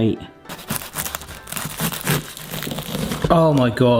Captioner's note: pastry crunches